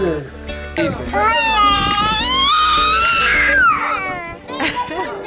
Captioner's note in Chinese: 嬰兒語